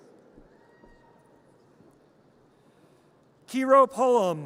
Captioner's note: audience cheers